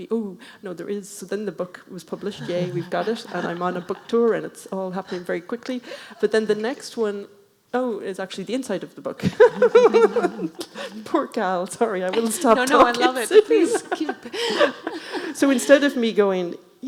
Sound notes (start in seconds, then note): 9.2 laughing; 14.4 laughing